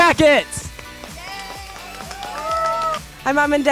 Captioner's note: cheering